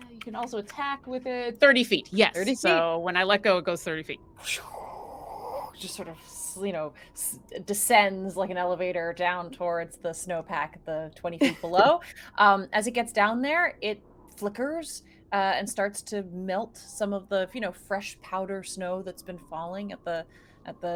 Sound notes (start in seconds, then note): 4.4 mouth whooshes air